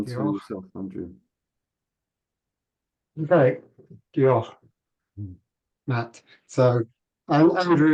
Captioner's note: in Welsh